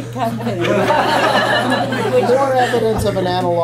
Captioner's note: laughter